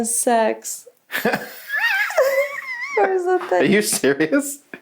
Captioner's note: both laughs